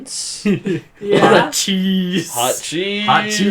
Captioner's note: laughs